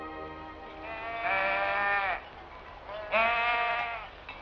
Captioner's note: sheep bleating